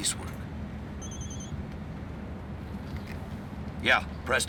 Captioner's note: phone ringing